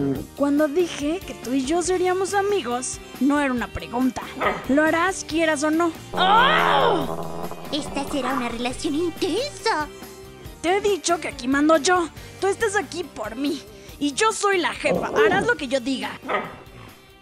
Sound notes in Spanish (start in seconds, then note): 4.2 ladrido de el zorro de maggie; 6.1 gruñido de maggie con su animal espiritual; 16.2 ladrido again :V